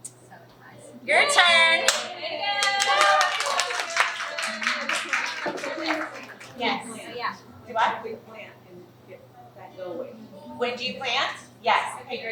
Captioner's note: clapping